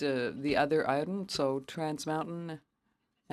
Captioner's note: speaking French